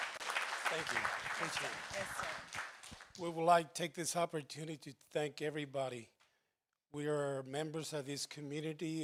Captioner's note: applause